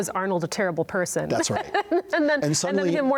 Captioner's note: interviewer laughs